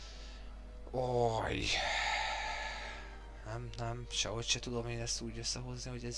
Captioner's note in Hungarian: sóhajtás